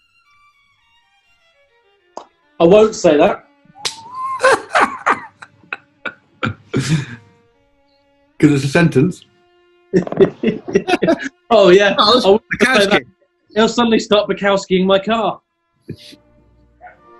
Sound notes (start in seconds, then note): 3.8 laughing; 9.9 giggling